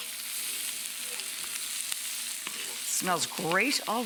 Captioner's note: vegetable sizzling